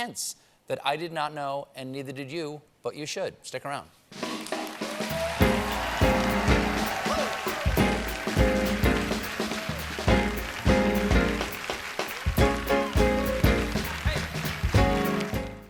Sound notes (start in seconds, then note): 5.6 band playing; 5.6 cheers and applause